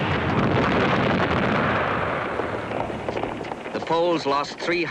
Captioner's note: explosions booming continues